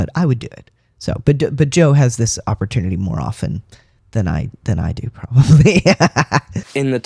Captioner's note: laugh